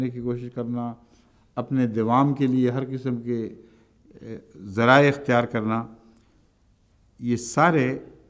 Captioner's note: Arabic